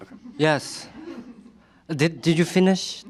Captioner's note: laughter